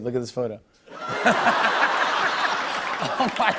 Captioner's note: laughter and applause